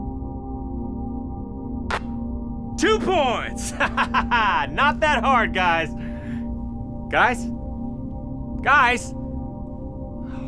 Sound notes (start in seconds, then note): 0.0 music calms; 3.6 laughs